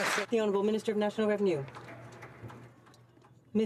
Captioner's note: some Applause